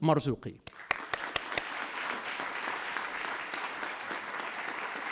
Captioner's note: audience applauds